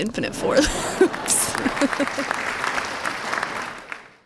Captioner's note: applause